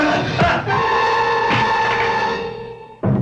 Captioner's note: gun thudding; dramatic music